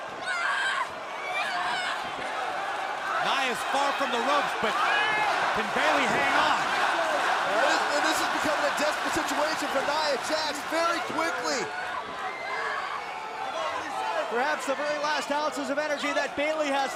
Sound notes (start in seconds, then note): 8.0 crowd cheering; 12.9 crowd chatter